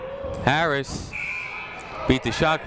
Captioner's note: buzzer ringing